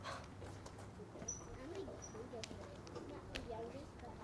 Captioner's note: group chatter